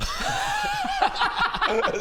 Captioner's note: justifiable laughter